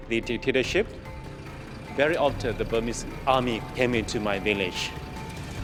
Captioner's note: tank engine revving